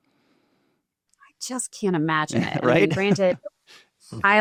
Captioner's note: chuckles